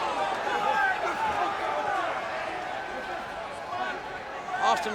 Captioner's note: crowd chattering